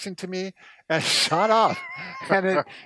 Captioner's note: chuckles